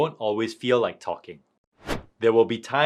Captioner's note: transition whooshing